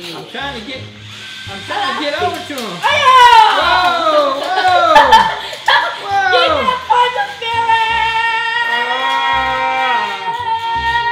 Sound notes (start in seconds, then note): 2.5 shouts; 5.9 laughs